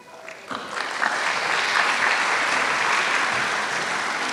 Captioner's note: applause